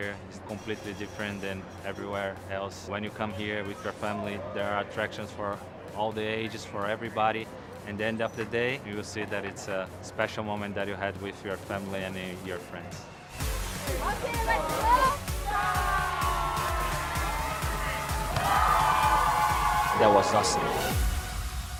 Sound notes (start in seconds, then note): 15.4 screaming; 18.1 crowd cheers